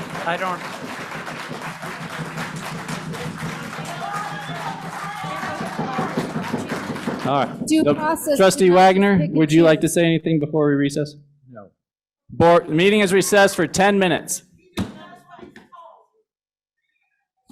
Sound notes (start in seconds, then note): 0.0 cheers, applause; 0.0 applause; 3.8 shouting